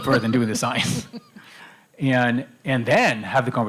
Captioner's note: laughter